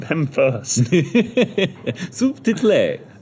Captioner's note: laughs